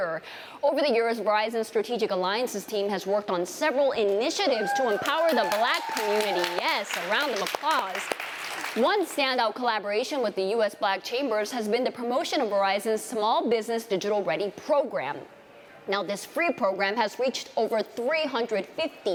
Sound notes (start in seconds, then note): 4.6 applause